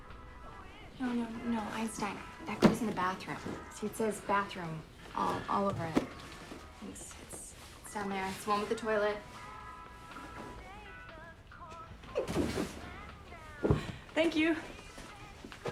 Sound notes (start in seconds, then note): 13.5 box thudding